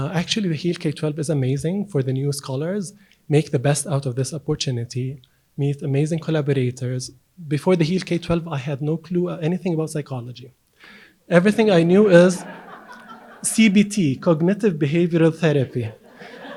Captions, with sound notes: Actually the HEAL K12 is amazing for the new scholars. Make the best out of this opportunity. Meet amazing collaborators. Before the HEAL K12, I had no clue anything about psychology. Everything I knew is (audience laughs) CBT, cognitive behavioral therapy.